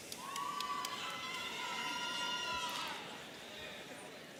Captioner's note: audience cheering